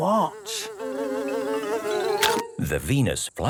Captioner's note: buzzing; chomps